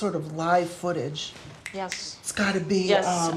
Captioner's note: snapping fingers